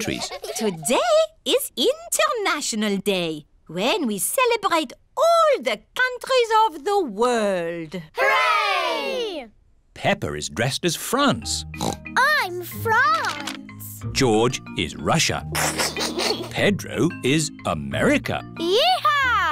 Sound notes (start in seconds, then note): 11.7 oinks; 15.5 giggles